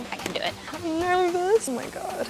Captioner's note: mutters